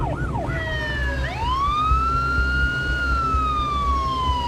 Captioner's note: sirens